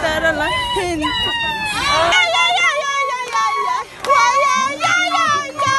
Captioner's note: chanting and denouncing